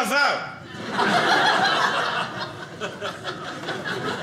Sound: audience laughing

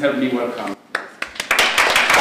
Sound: applause

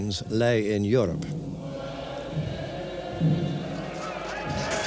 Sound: chanting

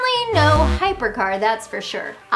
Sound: graphics buzz; graphics pop

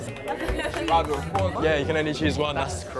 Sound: applauding

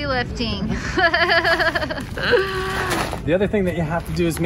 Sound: laughs

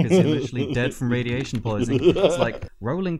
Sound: laughter

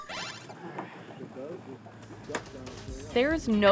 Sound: group chatting

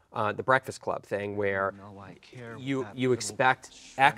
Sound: none

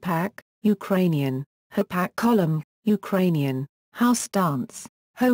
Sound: Ukrainian

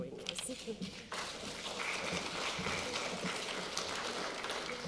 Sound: audience applauds

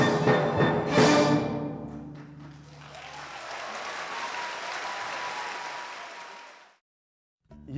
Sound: applause

